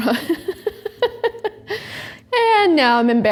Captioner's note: laughs